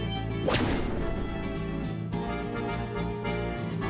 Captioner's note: loud slap